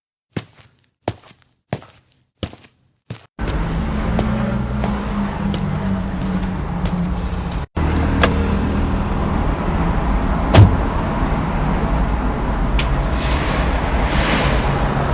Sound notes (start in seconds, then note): 0.3 footsteps; 8.2 car door opens; 10.5 car door closes; 12.9 engine starts